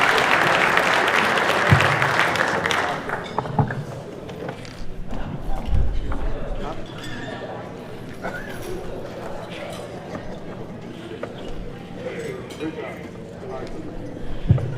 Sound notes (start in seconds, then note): 3.5 audience murmuring